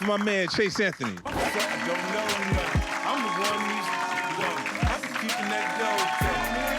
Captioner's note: cheering